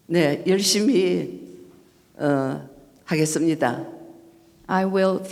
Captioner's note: speaking foreign language